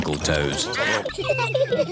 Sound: duck quacking

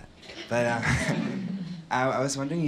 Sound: laughter

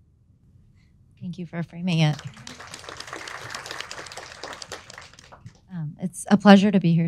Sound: audience applauding

